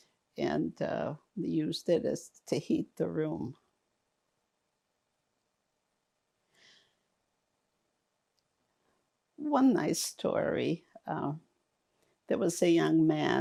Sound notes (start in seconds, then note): 3.6 pauses 6 seconds